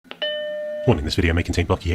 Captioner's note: electronic chiming